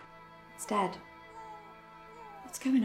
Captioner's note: baby crying